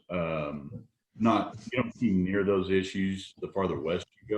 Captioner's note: audio is choppy